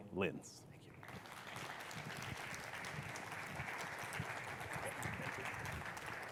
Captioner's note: audience applauding